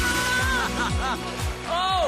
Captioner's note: melai screams; robi laughing; melai screaming